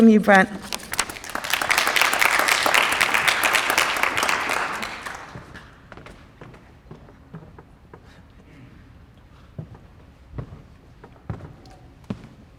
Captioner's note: applause